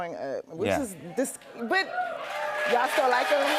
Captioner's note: cheers and applause